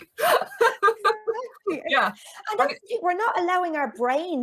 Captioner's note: chuckles